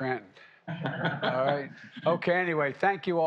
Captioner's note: laughter